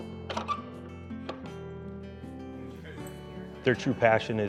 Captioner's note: door clatters, squeaks